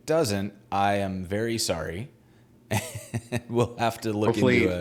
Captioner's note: laughing